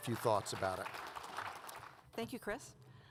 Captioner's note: audience applauds